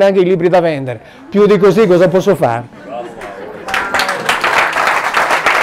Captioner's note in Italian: applauso